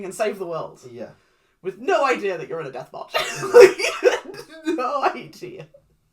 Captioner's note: laughs